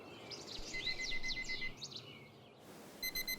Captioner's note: alarm beep